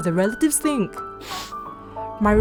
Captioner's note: sniffs